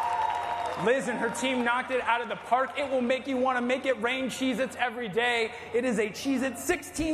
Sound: cheers and applause

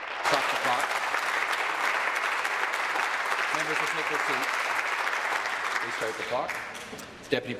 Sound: applause

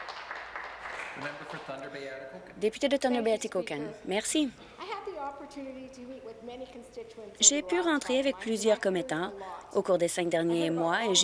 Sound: some Applause

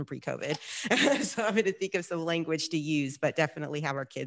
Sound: laughs

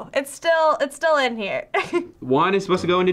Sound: laughs

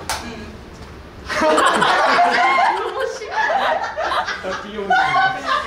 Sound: hahaha

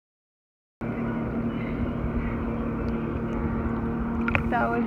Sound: sounds of a boat's engine passing

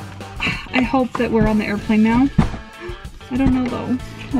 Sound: gasps

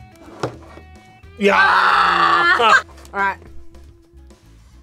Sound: both exclaim

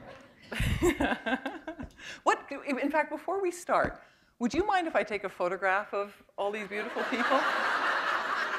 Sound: chuckle

